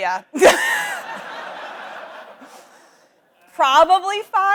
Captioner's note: audience laughs